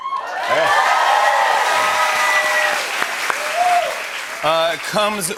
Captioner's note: cheers and applause